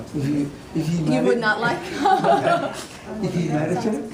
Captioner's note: laughs